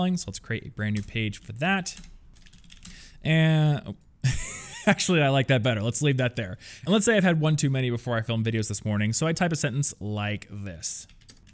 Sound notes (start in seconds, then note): 2.4 keyboard clicking; 4.0 laughs